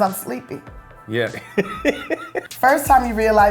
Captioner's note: laughs